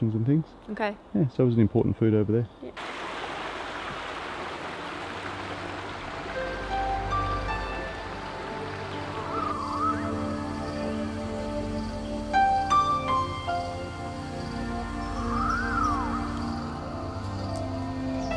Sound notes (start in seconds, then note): 2.7 water gurgles; 2.9 mellow electronic music; 9.9 birds chortle and chirp; 9.9 insects chirp